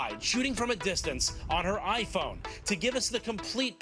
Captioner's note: none